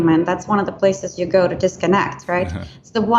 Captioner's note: laughs